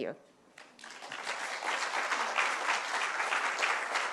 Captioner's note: applause